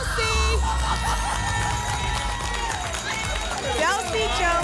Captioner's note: applause and cheering